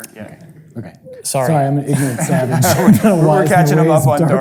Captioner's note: group chattering